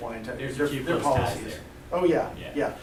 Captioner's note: voiceover